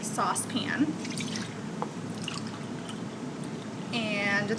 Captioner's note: liquid pouring